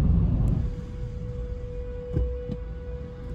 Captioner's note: tornado sirens